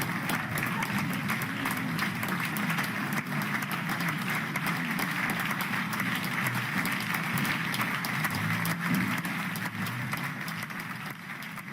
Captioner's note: applause